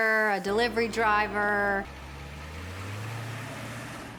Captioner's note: truck engine sound